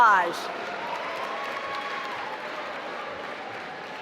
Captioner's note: applause